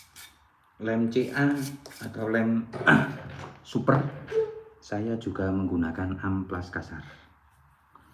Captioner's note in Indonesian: berdehem